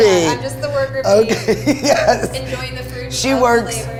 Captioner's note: laughs